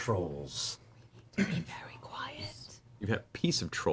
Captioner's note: whispering